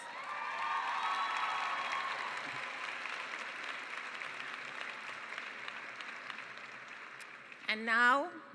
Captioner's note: cheering and applause